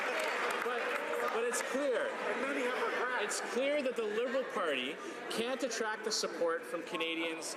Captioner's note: some Applause